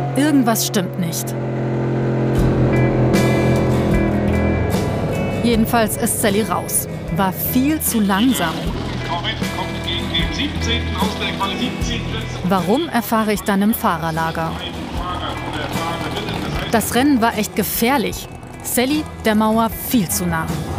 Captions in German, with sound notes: Irgendwas stimmt nicht. (Motorengeräusche, lockere Musik) Jedenfalls ist Sally raus. War viel zu langsam. (Lautsprecherdurchsage) Warum, erfahre ich dann im Fahrerlager. Das Rennen war echt gefährlich, Sally der Mauer viel zu nah.